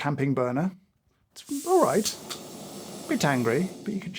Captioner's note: burner hissing